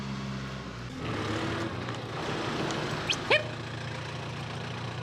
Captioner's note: tractor engine; booger whistles